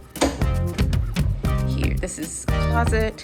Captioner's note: door closing